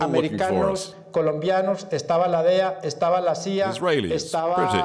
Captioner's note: Spanish spoken audio